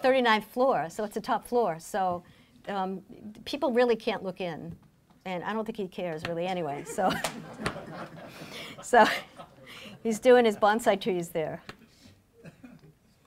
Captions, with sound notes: We live on the 39th floor, so it's a top floor, so people really can't look in, and I don't think he cares really anyway, so. (laughing) He's doing his bonsai trees there.